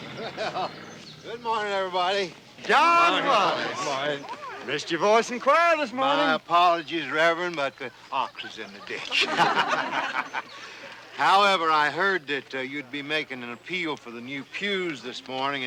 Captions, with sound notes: - Well, good mornin' everybody. - John Wallace. Missed your voice in choir this morning. - My apologies, Reverend, but the ox was in the ditch. (laughing) However, I heard that you'd be making an appeal for the new pews this morning,